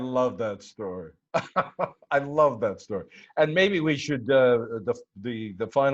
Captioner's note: laughter